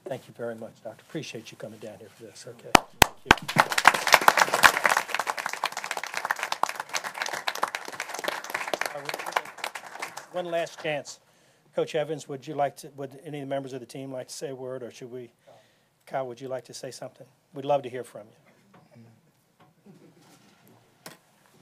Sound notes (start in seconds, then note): 7.1 applause